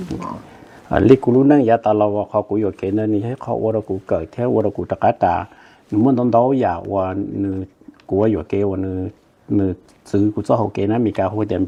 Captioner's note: Speaking in Hmong